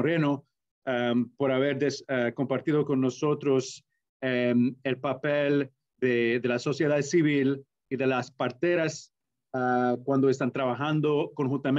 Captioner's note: Spanish language